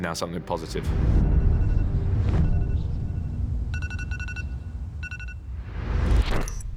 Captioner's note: alarm beeping